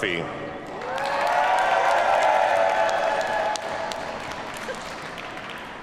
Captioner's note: audience cheers and applauds